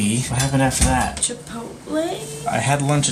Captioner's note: hesitantly